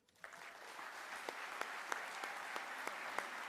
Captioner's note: applause